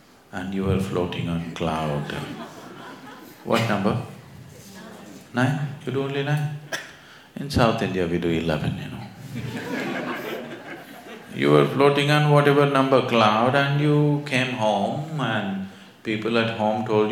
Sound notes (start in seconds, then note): 2.0 laughter; 9.2 laughter